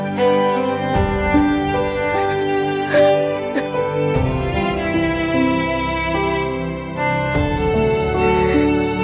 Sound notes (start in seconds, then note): 2.1 Poonam crying